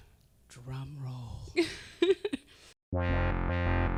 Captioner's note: chuckling; electronic synthesizer music